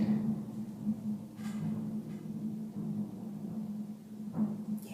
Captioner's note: thunder rumbling